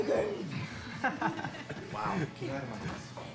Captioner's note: laughter